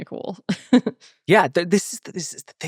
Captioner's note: laughing